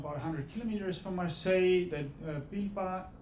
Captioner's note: speaking foreign language